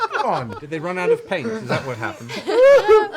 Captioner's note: laughter